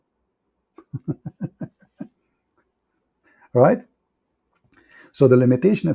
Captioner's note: Ketawa